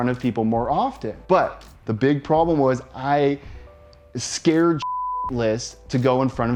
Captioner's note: beep